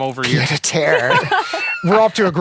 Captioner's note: laughing; laughs